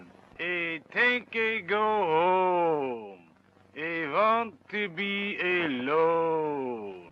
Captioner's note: strange accent